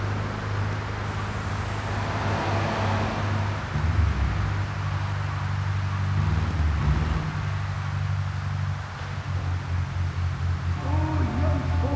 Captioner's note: tires screeching